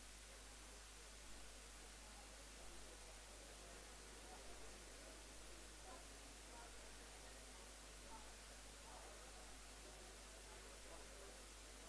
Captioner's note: background chatter